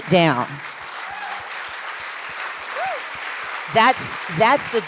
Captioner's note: cheers, applause